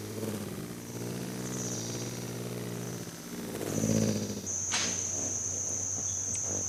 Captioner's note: buzzing; bird chirping; bird's wing flapping